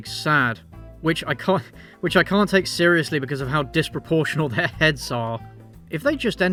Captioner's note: laughs